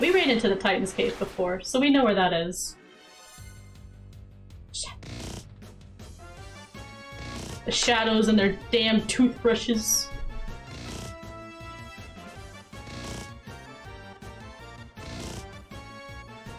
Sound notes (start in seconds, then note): 9.9 hum